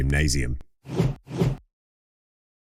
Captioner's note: whoosh